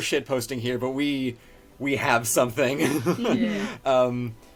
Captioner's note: laughs